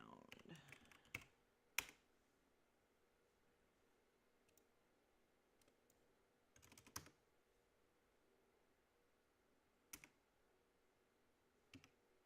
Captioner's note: mouse and keyboard clicking